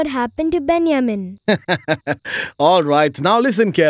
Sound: laughing

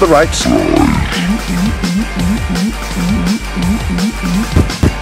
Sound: constant drinking

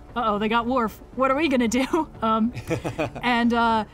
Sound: laughs

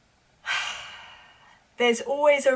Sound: sighs

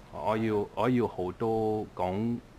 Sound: mandarin

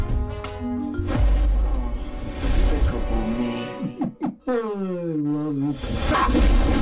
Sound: sighs; chuckling

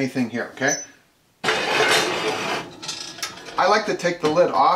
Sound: clanging

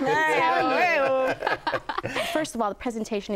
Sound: laughing

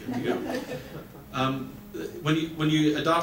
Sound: audience laughs

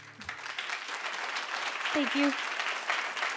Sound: audience applauding

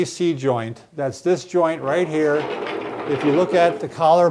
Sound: skeleton rattles

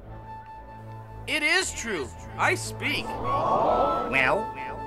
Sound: הקהל מתנשף

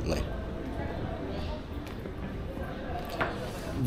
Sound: people chattering

